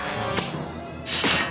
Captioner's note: glove snaps; belt clicks